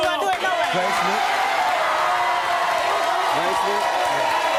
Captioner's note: audience cheering; audience clapping